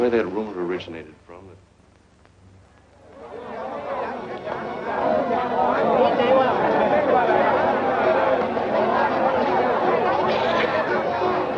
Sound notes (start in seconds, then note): 2.6 chattering in foreign language